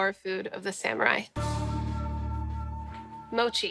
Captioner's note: gong